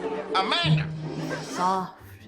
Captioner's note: people laughing